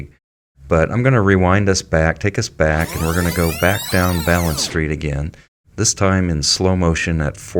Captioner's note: sound of tape rewinding rapidly